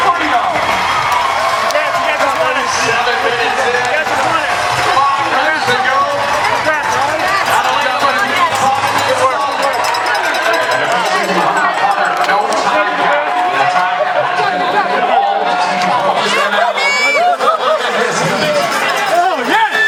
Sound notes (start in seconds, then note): 4.6 crowd cheering